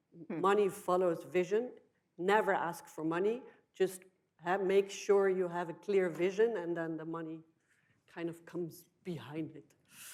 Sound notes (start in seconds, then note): none